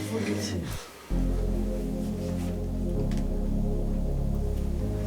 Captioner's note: short breath